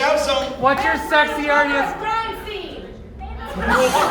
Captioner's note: crowd